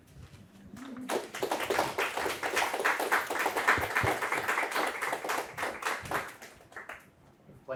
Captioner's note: applause